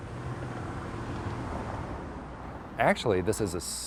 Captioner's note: heavy duty truck engine